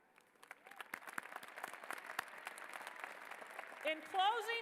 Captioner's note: applause